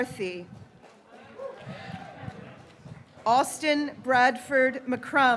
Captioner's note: graduates cheering